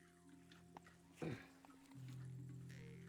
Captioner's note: grunts